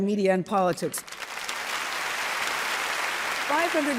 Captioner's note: crowd applauding